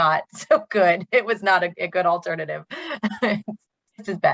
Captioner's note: laughs